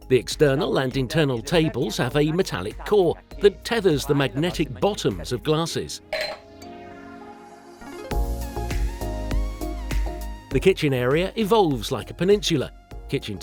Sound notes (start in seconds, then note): 6.1 glass clanging